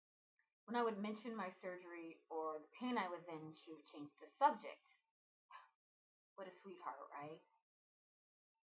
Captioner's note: sigh